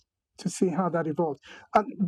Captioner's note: none